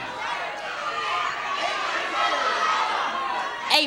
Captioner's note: audience shouting